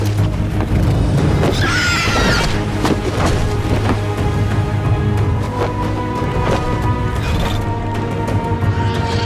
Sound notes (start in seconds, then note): 1.5 dragon screeches